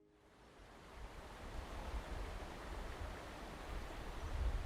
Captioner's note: water rushing